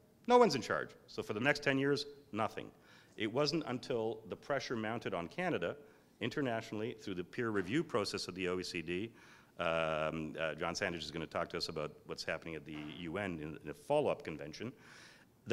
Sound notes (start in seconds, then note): none